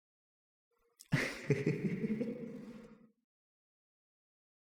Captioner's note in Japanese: 笑い